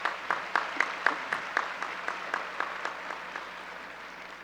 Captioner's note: audience applause